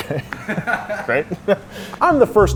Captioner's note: laughs